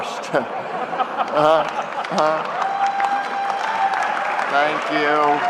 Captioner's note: laughter and applause